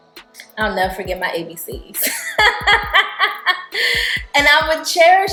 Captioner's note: laughing